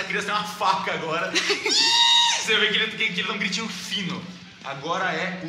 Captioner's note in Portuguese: grito